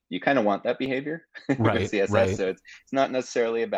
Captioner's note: chuckling